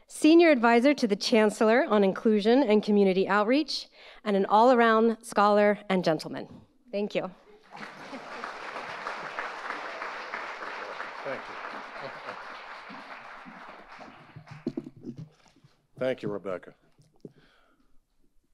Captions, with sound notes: Senior Adviser to the Chancellor on Inclusion and Community Outreach, and an all-around scholar and gentleman. Thank you. (audience applauds) - Thank you. (chuckles) Thank you, Rebecca.